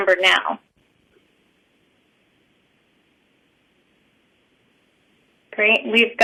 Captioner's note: pause